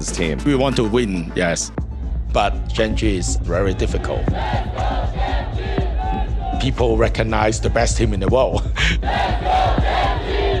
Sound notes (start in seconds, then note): 3.8 crowd chanting; 8.5 chuckles; 9.0 crowd chanting